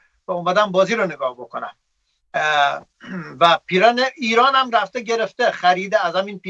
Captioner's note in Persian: گلویش را صاف می‌کند